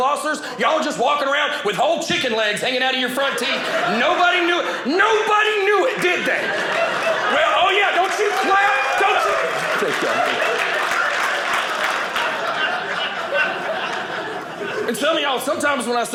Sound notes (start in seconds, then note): 10.2 audience clapping; 12.6 audience laughing